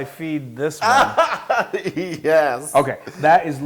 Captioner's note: laugh